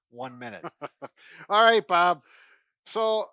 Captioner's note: laughs